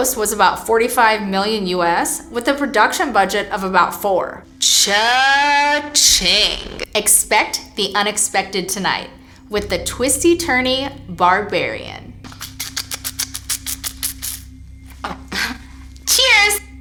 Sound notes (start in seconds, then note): 12.3 eagerly slurping; 15.1 giggles